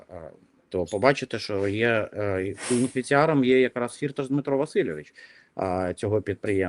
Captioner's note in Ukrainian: сопіння